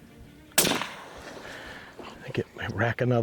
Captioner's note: gun fire